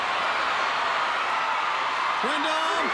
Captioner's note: crowd cheering